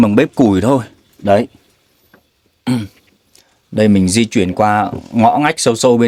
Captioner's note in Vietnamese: hắng giọng